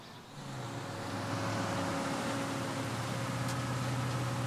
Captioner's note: engine rumbling